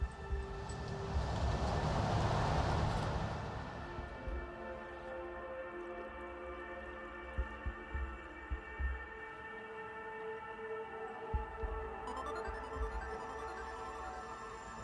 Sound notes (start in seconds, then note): 0.0 car approaches; 12.0 phone rings